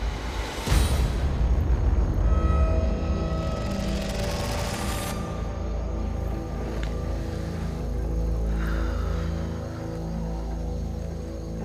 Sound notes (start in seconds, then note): 8.5 long sigh